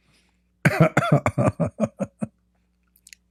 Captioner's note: Ketawa